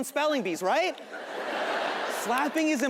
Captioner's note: audience laughing